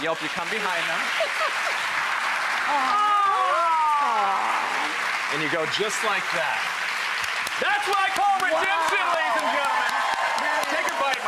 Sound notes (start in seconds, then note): 6.8 audience applauds; 9.6 audience applauds